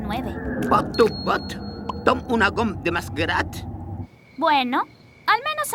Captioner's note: speaking alien language